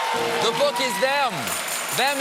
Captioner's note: cheers and applause